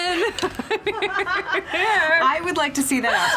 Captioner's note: both laugh